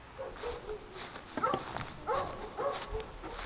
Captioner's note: barking